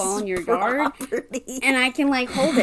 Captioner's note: laughing